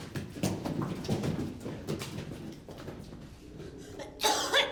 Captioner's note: Marva coughing